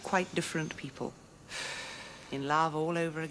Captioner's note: blows smoke